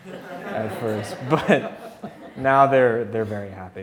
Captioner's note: audience laughing